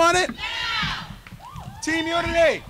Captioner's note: crowd